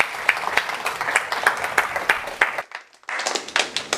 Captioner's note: applause